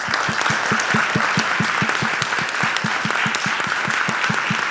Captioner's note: audience applauding